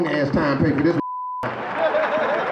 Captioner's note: beep